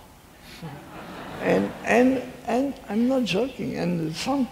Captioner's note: laughing